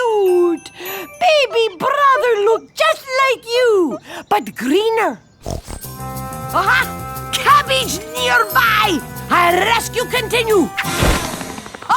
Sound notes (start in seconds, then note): 5.4 snorts; 10.5 laughs